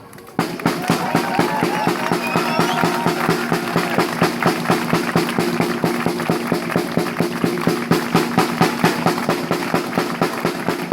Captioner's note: drumming applause